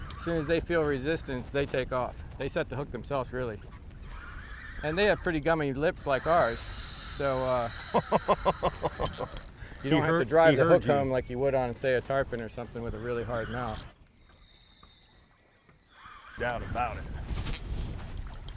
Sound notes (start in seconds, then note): 7.8 laughs; 8.0 drag screaming